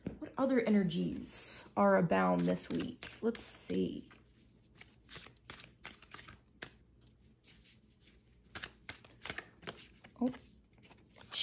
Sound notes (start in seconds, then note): 6.9 shuffling